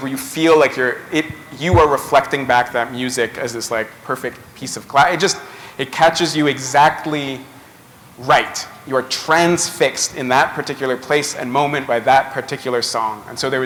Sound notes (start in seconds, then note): none